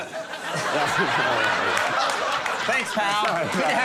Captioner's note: audience laughing; laughing